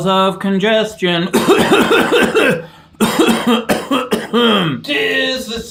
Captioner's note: coughing violently